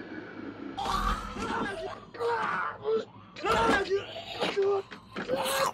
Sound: snarling; yelling

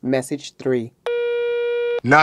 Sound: phone tone

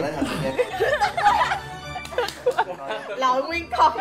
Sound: laugh

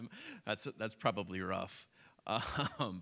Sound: laughs

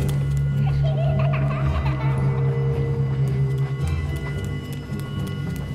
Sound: eerie child laughs

